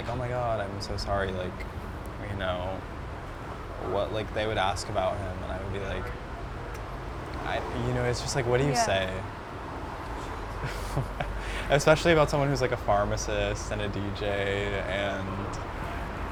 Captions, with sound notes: "Oh my god, I'm so sorry." Like, you know, what, like, they would ask about him and I would be like, I, you know, it's just like, what do you say? (laughs) - Yeah. - Especially about someone who's like a pharmacist and a DJ and-